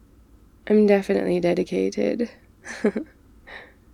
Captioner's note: laughs